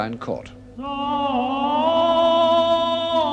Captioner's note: chanting continues